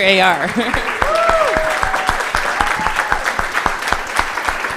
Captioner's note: laughs; cheering, applause